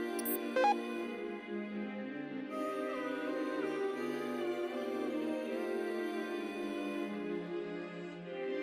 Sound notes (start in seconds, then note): 0.2 countdown bleep stops